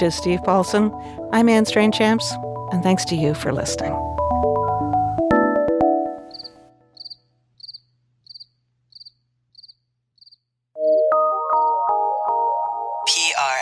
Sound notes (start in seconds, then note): 4.3 electronic music intensifies; 6.9 crickets chirping; 10.8 dreamy music